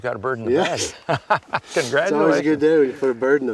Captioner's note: laughs